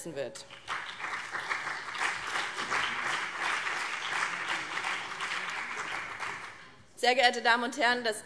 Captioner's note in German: Beifall BÜNDNIS 90/DIE GRÜNEN und vereinzelt CDU